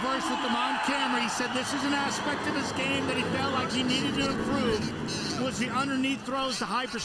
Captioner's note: loud Crowd Noise